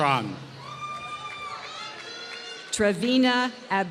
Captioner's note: applause